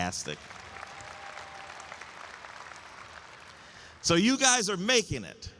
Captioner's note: audience applauds